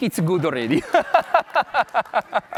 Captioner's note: laughs